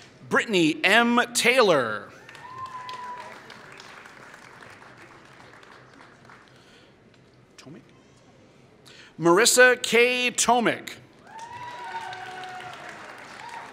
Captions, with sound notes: Brittany M. Taylor [Applause] Marissa K. Tomek [Applause]